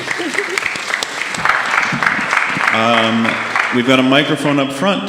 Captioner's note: audience applauding